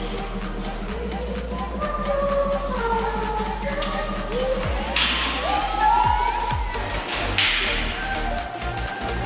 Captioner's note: no furniture very strong echo